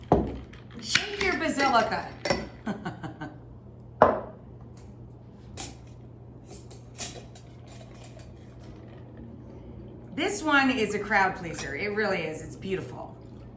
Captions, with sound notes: Shake your Basilica. (giggles) This one is a crowd pleaser. It really is, it's beautiful.